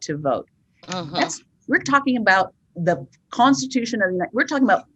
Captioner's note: stutters